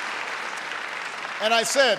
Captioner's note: applause